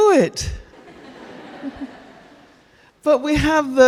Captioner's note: audience laughing